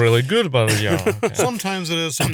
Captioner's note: laughs